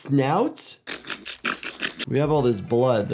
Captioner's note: person snorting